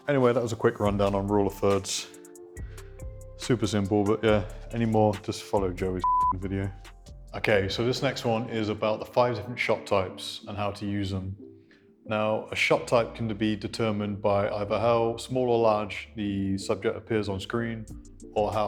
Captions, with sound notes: Anyway, that was a quick rundown on rule of thirds. Super simple. But yeah, anymore, just follow Joey's (beep) video. Okay. So this next one is about the 5 different shot types and how to use them. Now a shot type can be determined by either how small or large the subject appears on screen